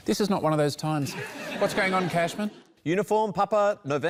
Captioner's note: laughter